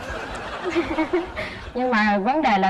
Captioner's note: laughs